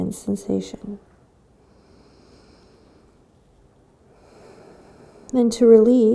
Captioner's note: breathing